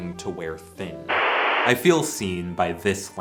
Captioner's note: static